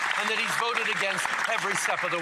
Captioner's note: some Applause